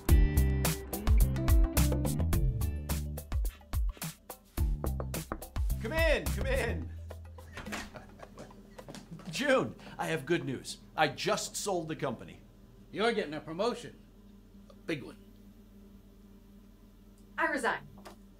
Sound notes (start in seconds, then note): 0.0 hopeful music continues; 4.8 door knocking